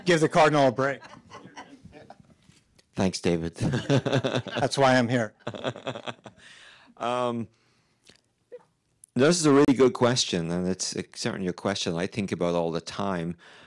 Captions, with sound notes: Give give the cardinal a break. (laughing) - Thanks David (laughing). - That's why I'm here. - This is a really good question and it's certainly a question I think about all the time.